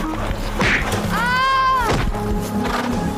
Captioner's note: braying; groans